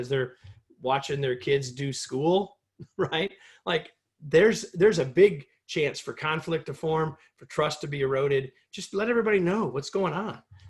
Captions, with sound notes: they're watching their kids do school, [LAUGHTER] there's a big chance for conflict to form, for trust to be eroded. Just let everybody know what's going on.